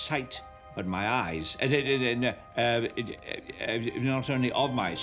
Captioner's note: stammering